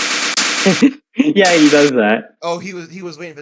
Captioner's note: laughing